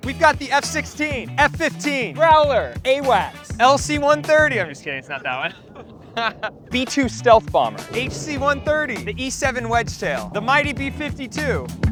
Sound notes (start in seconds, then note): 6.4 laughs